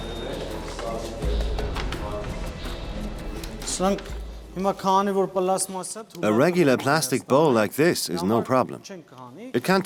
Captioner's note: voiceover